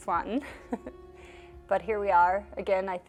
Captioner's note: chuckles